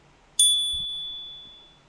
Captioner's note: chime